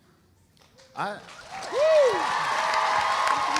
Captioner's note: audience cheering; audience applauding